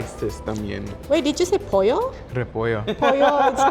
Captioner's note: speaking Spanish